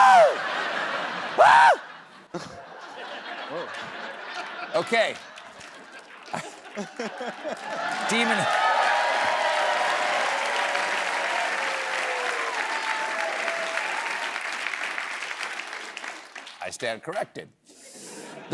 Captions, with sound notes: AHHH! OKAY. [CHEERS AND APPLAUSE] I STAND CORRECTED.